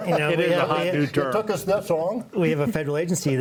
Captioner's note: laughs